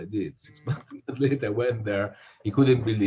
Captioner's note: laughs